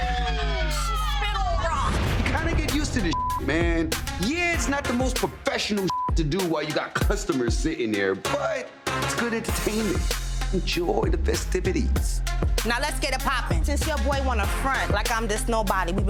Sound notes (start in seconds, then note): 3.1 beep; 5.9 beep